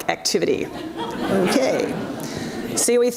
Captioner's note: audience laughs